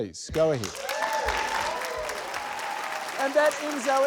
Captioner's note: cheers, applause